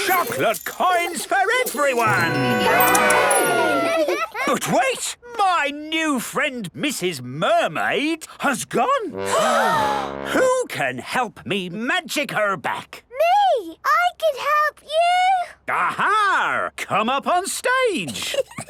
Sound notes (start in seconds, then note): 9.2 all gasp